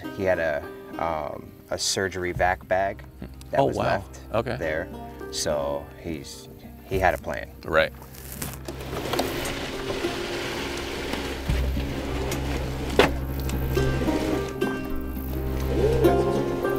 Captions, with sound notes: he had a surgery VAC bag that was left there, so, he had a plan. - Right. (boat grating) (soft music)